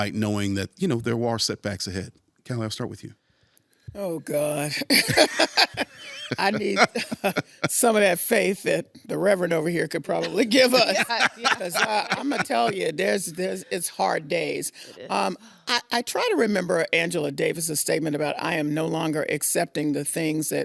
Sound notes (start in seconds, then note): 4.8 laughing; 10.2 laughing